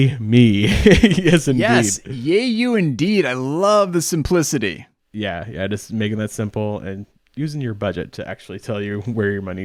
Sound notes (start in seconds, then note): 0.6 laughs